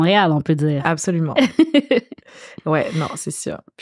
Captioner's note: laughs